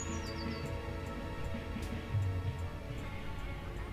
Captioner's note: birds chirping